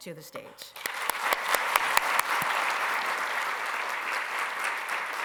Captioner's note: applause